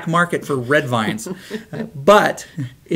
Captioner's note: laughs